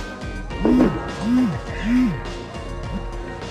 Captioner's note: phone vibrates